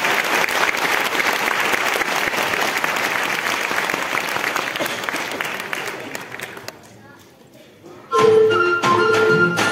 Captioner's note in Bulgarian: аплодисменти